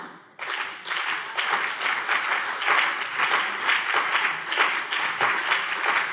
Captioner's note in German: Beifall BÜNDNIS 90/DIE GRÜNEN und CDU